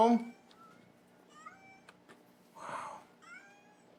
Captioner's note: cats meowing